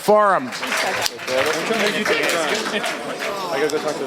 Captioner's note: applause